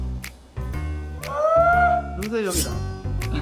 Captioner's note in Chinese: 尖叫